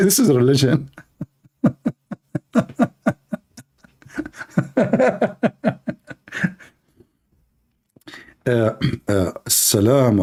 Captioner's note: Ketawa